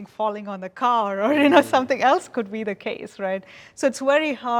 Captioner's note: laughs